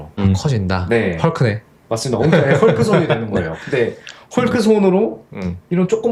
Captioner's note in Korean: 웃음